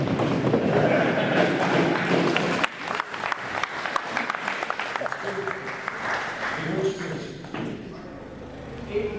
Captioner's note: laugher. Applause